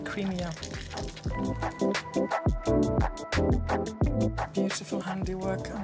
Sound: soup pouring; upbeat music

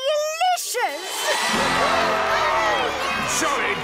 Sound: cheering

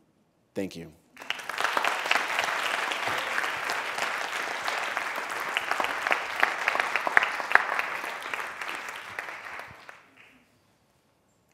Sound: applause

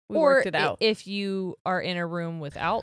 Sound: none

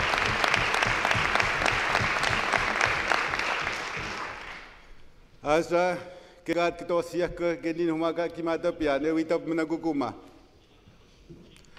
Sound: some Applause

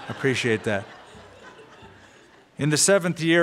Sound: laughter

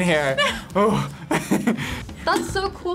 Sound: laughs

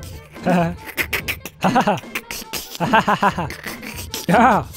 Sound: hysterical wheezing

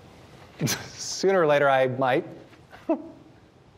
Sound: laughing; laughs

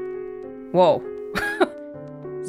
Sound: chuckles

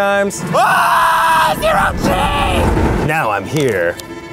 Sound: screaming

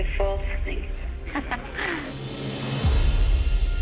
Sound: Marilyn laughs

